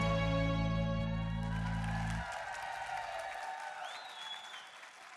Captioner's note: applause and cheering